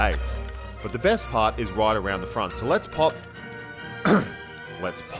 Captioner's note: clear throat